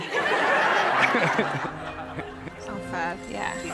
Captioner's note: guests laughing